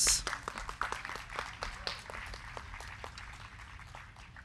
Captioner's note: crowd clapping